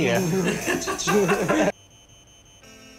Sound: laughs

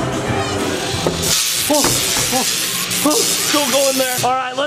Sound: electricity crackling

